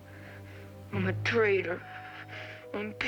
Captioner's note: sobbing